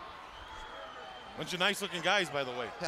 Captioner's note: crowd chatter